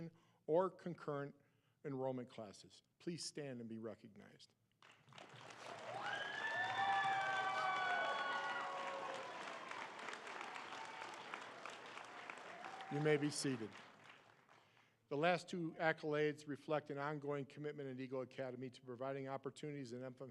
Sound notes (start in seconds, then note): 10.9 cheering and applause